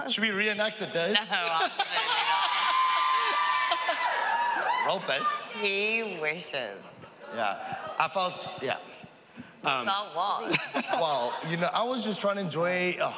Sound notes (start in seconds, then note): 2.0 audience cheers